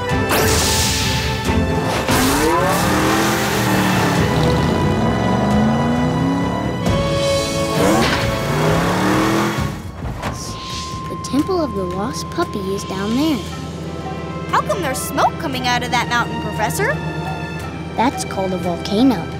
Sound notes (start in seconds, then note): none